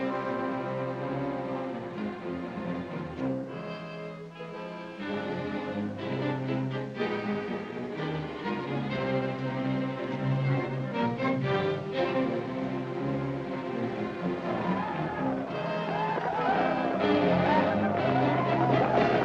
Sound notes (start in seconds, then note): 14.2 war cries